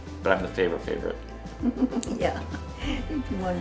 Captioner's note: laughter